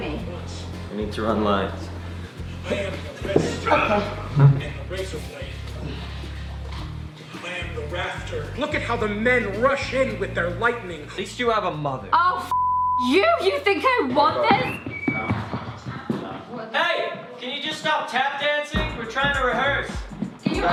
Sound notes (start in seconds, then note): 13.8 shuffling